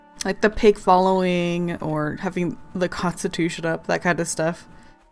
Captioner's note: none